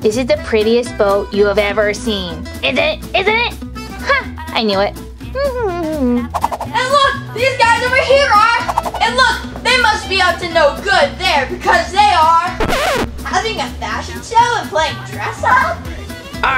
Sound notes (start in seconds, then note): 12.6 record scratches